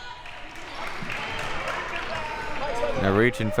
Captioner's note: audience applauding